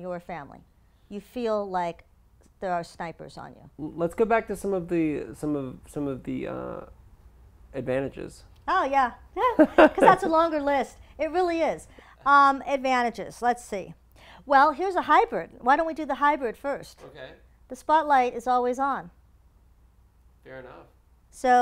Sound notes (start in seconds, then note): 9.4 laugh